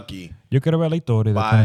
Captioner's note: speaking Spanish